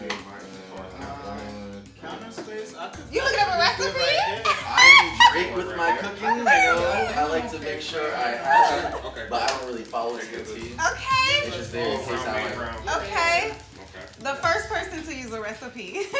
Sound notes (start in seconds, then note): 3.2 laughs